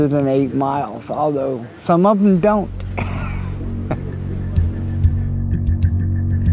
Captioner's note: laughs